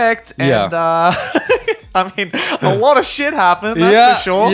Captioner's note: laughs